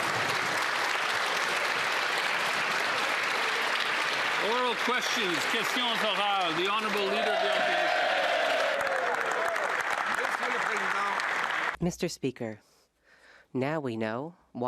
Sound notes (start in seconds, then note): 7.9 applause; 9.5 speaking French; 12.6 cheers & Applause